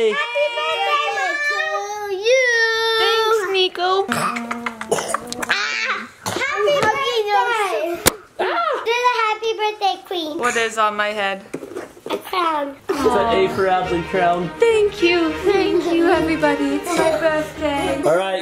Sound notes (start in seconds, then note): 4.0 coughs and yells